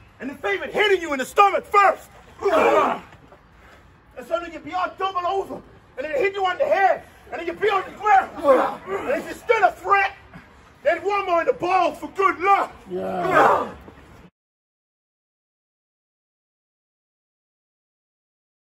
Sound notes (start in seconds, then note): 12.9 grunts